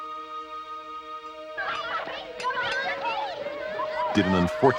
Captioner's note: children laughing